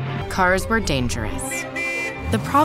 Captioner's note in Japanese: 車のホーン